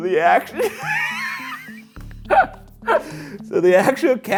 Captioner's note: laughs